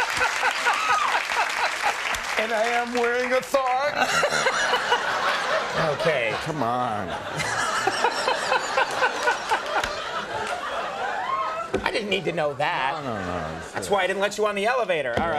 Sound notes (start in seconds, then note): 4.6 laughter; 7.8 laughter